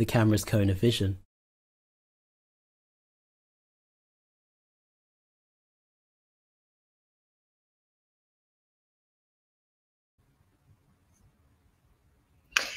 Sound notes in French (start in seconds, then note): 1.2 silence